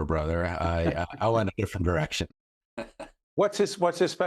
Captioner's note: laughs